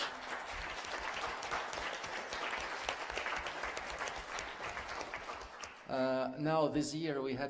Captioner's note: applause